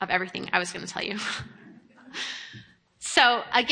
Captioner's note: chuckles